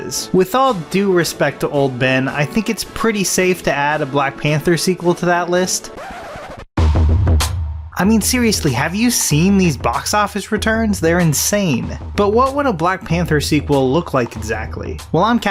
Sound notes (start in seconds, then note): 5.9 record scratching; 6.7 intense music